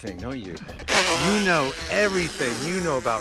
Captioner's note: Pete blows raspberry